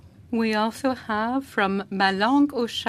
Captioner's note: speaking French